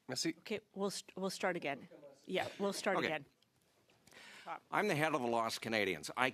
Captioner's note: speaking French